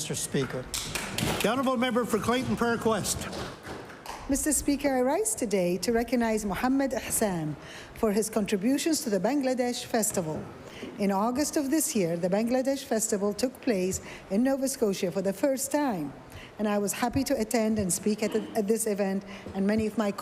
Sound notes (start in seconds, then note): 3.7 applause